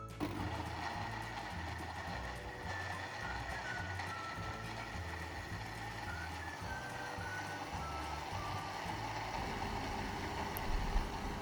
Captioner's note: blending sound